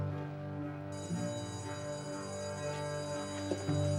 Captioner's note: school bell ringing